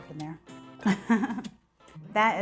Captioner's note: laughing